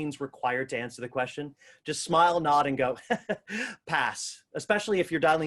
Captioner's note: chuckles